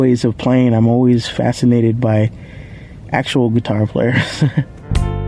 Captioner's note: chuckle